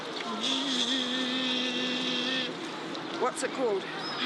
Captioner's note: mimics machine noises